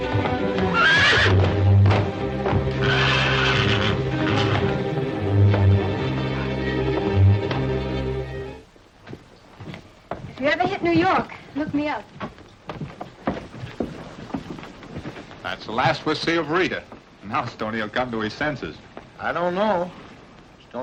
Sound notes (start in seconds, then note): 0.5 horse neighing